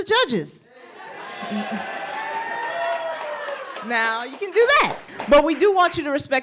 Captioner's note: laughter; applause